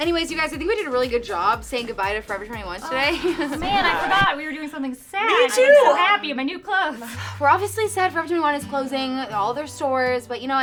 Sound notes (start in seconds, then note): 3.5 record scratch